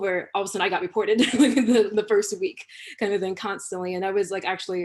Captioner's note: laughter